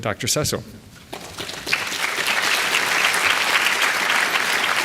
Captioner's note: applause